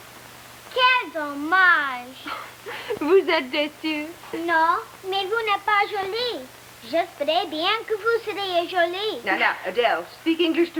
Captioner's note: speaking french